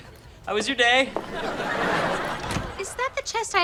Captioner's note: audience laughter